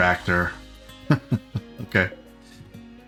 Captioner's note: laughs